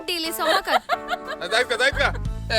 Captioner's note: laugh